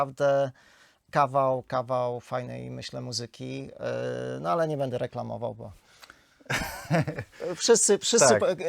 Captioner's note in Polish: śmiech